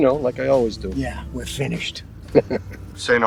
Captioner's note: man laughs